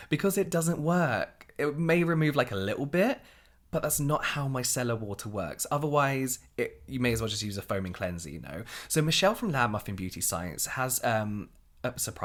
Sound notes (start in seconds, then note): none